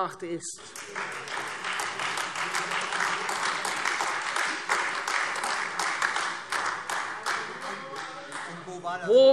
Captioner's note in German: Beifall